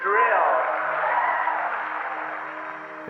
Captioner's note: applause